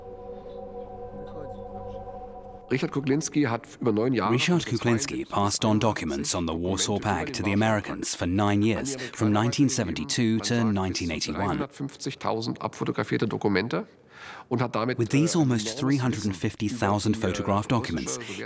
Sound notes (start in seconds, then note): 2.5 speaking German